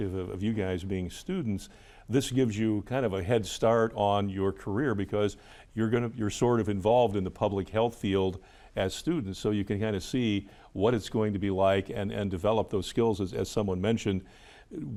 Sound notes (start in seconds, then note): none